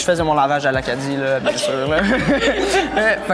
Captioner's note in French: rires